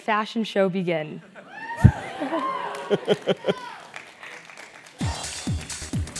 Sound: laugh; applause

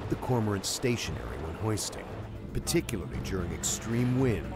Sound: voiceover

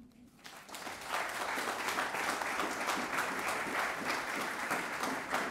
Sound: audience applauding

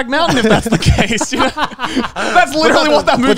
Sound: everyone laughs

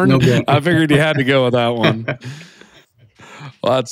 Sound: laughs

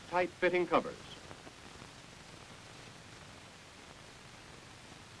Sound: silence

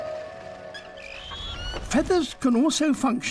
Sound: chirping

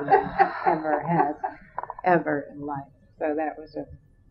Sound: laughter

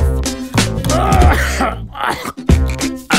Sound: coughing

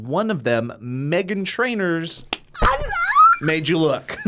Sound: screams

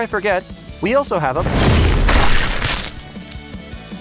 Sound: rocks thudding; Gowther splattering; upbeat music continues

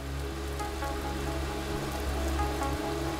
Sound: pouring rain; light electronic music

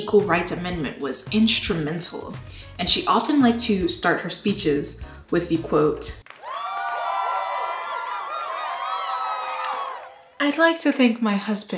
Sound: totally real applause

